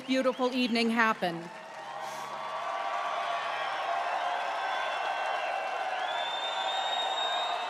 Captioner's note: applause